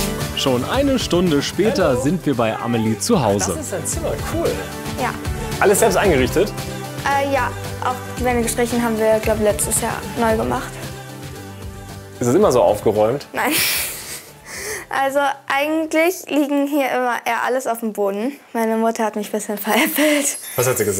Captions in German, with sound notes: Schon eine Stunde später sind wir bei Amelie zu Hause. Das ist dein Zimmer? Cool! - Ja. Alles selbst eingerichtet? Ja, die Wände haben wir gestrichen, ich glaube, letztes Jahr. Ist das immer so aufgeräumt? - (lachend:) Nein. Also, eigentlich liegt hier immer alles auf dem Boden. Meine Mutter hat mich ein bisschen veräppelt.